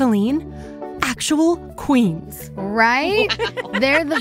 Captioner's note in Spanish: ríe